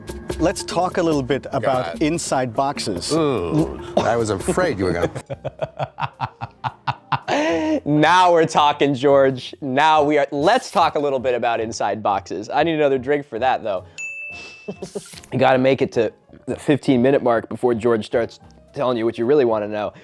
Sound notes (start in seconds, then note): 0.0 tropical music; 3.6 amused laugh